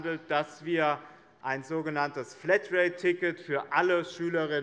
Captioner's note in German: none